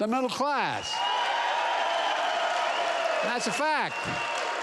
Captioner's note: applause